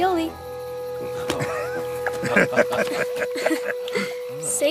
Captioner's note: laughter